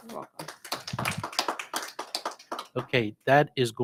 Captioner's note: audience applauding